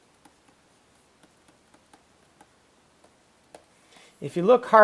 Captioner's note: writing